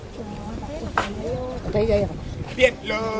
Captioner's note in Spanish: comentarios del público